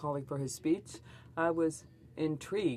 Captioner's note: speaking French